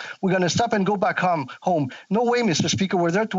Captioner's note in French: voix de l'interprète